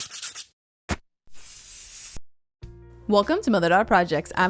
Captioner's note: pen scratching; spray paint hissing